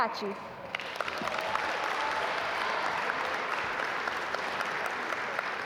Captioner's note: audience applaud